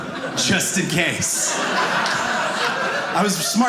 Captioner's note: audience laughing